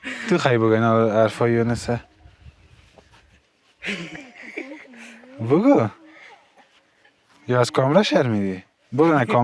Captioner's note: laughing